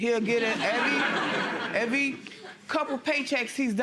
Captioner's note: audience laughter